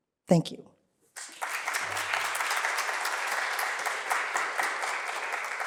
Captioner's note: applause